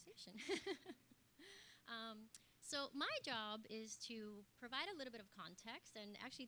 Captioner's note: laugh